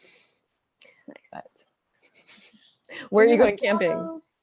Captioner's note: laughs